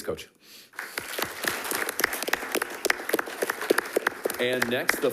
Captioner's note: attendees clapping